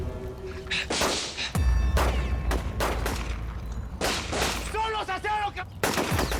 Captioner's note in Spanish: Disparos